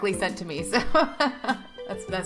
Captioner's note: laughing